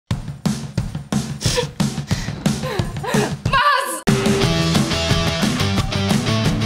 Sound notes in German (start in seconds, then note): 2.3 Schluchzen; 4.0 Rockmusik